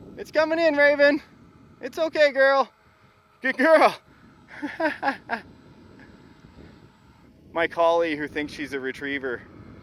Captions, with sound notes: It's coming in, Maven, it's okay, girl. Good girl! (laughs) My collie here thinks she's a retriever.